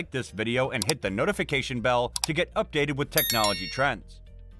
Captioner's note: with a bell sound